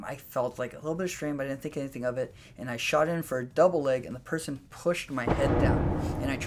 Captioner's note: booming noise